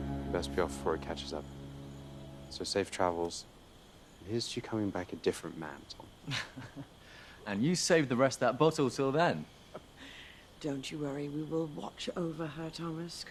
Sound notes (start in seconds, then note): 6.2 Thomas chuckles